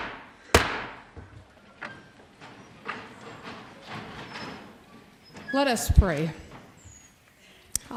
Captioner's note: banging gavel